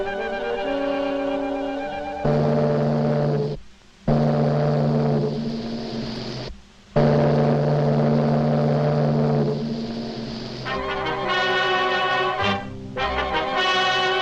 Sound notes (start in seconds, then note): 0.0 light dramatic music; 2.5 ship horn blows; 10.6 light dramatic music